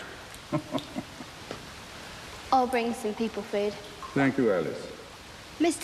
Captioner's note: chuckling